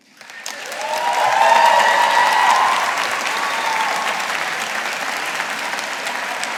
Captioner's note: audience applauding